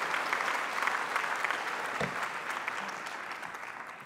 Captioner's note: applause